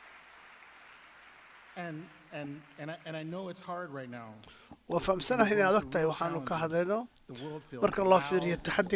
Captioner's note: applause